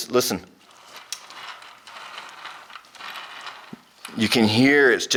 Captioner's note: wheel grinding